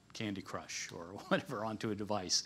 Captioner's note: laughs